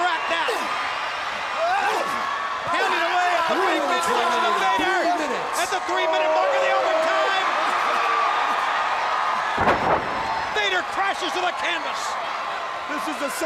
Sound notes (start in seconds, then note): 0.3 crowd chatter; 9.5 crowd chatter; 10.2 crowd cheering